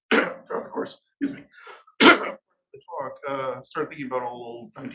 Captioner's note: coughs